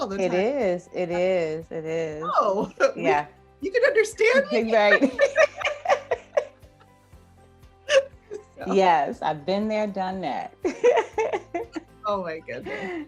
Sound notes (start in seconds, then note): 4.4 both laugh; 11.4 laughs